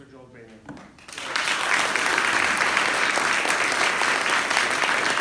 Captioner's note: applause